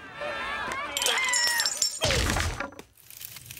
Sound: <i>screams</i>

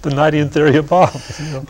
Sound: laughter

